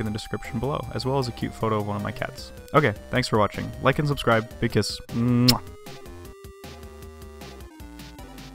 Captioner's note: mwah